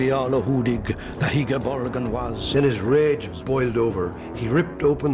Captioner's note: man speaking Old English